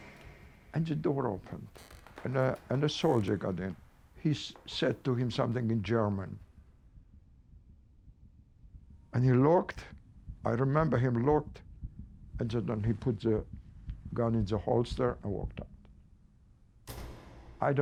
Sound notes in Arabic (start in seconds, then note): 0.0 صوت الباب; 16.8 يغلق الباب